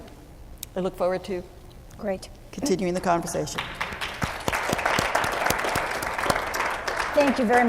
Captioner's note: clapping